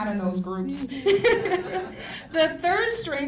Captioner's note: laughter